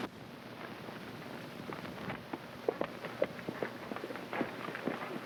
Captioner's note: hooves clopping